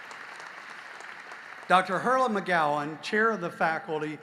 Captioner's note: applause